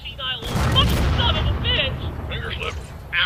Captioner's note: boom!